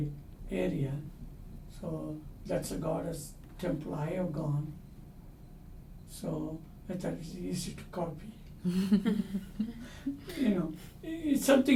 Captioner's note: all laugh